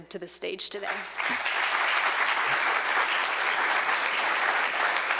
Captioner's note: audience applauding